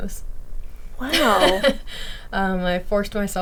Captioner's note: laughing